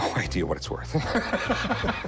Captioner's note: laughter